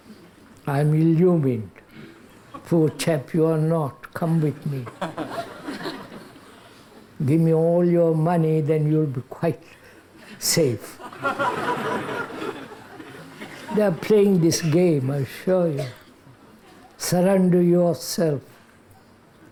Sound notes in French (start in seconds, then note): 11.0 rires